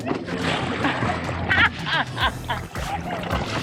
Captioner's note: laughing